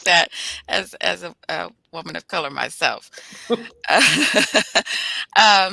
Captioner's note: laughs